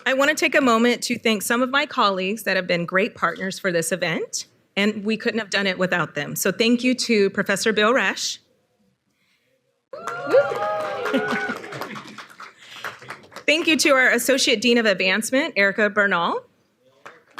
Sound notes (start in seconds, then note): 9.9 audience cheering; 11.1 chuckles; 17.0 audience applauding